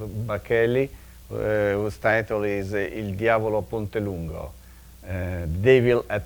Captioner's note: speaking in a foreign language